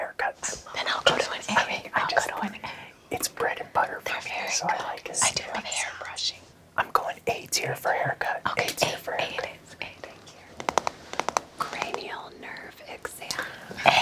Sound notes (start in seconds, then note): 10.5 taps brush